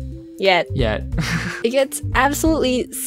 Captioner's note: lols